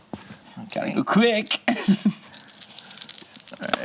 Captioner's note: laughs